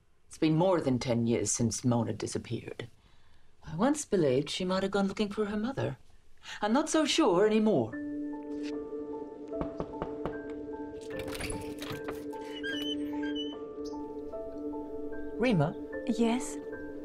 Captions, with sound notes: It's been more than 10 years since Mona disappeared. I once believed she might have gone looking for her mother. I'm not so sure anymore. (somber orchestral music) (knuckles tapping) (door rattles) Rima? - Yes.